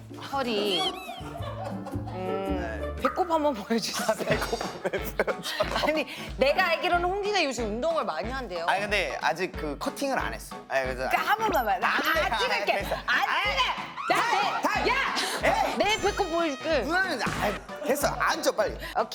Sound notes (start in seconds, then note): 11.0 bickering